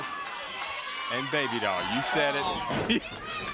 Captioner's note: crowd chatter